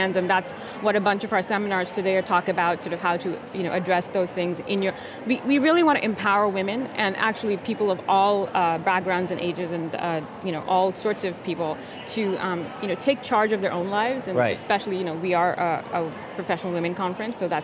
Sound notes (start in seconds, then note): none